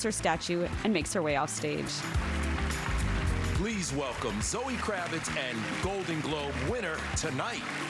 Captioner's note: applause